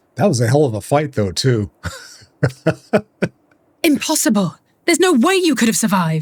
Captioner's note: laughter